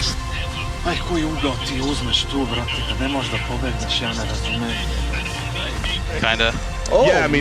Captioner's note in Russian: Говорит на сербском